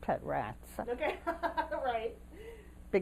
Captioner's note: laughter